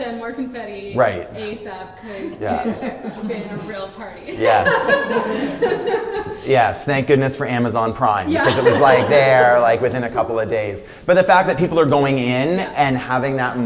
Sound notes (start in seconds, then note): 5.3 laughter